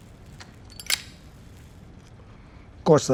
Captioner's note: lighter clicking shut